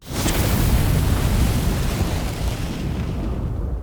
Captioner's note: fire crackling